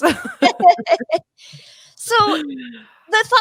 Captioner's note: all laughing